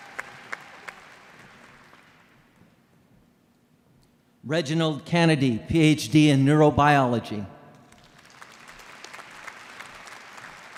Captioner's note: applause